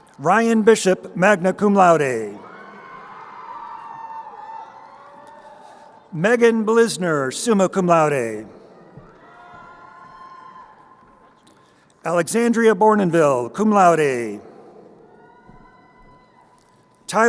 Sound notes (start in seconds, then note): 1.3 crowd cheering; 15.0 crowd cheering